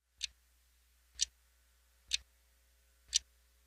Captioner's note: clock ticking